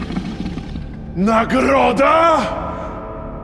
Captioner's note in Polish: warknięcie lwa